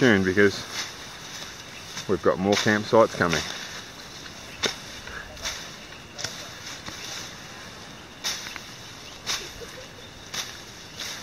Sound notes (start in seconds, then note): 3.8 machete cutting vegetation